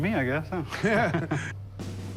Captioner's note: laughing